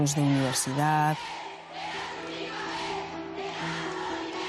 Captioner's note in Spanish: hablan en euskera